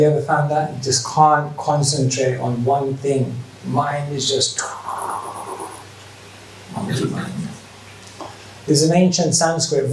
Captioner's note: woosh